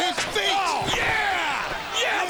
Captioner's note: crowd clamoring; chair thudding